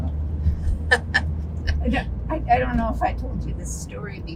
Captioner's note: laughing